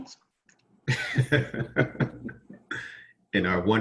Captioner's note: laughing